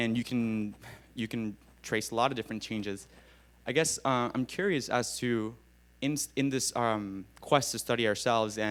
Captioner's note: none